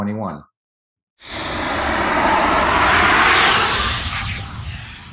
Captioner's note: air swooshing